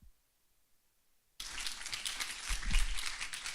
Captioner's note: applause